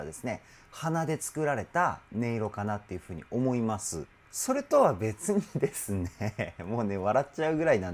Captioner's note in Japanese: 笑い